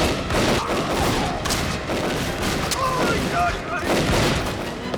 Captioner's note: gunfire clattering; gangsters groaning